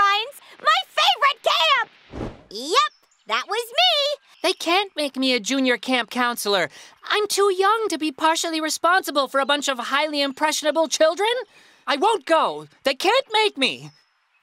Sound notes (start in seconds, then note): none